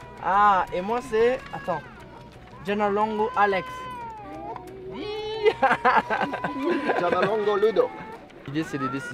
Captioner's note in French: Rire